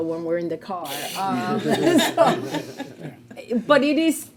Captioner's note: board members laughing